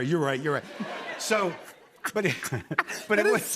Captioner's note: laughs